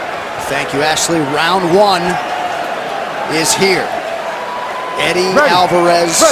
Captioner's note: cheering